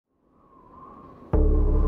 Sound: wind whistling; drum banging

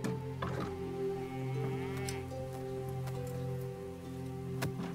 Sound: cows mooing

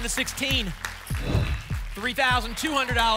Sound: whoosh

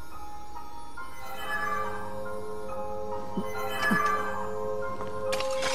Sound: Fi chimes

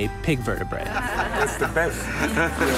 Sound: patrons laughing

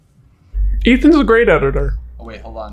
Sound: slow and deep

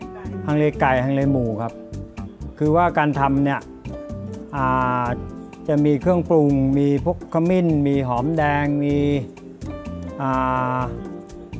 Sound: speaking Thai

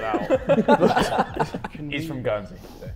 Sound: Sidemen laughing

